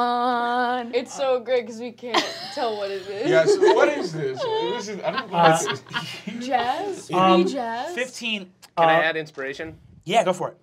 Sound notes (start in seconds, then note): 4.1 laughing